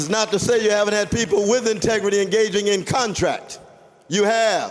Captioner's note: applause